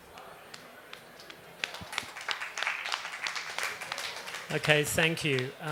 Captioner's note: applause